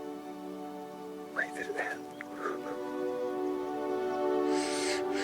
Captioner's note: inhales; Dayne inhaling